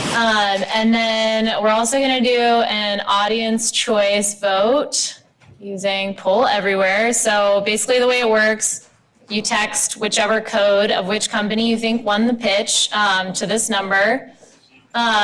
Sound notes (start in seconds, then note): none